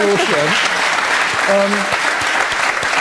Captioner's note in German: Applaus